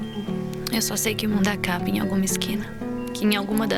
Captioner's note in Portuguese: em off